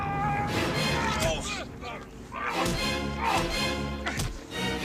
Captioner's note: men yelling; loud thumping